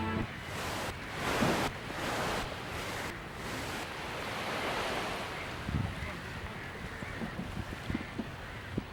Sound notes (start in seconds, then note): 4.1 waves lap, pulsing stops